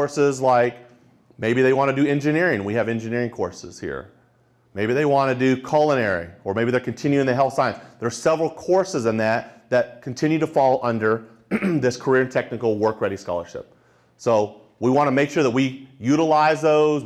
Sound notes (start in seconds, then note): 11.4 clears throat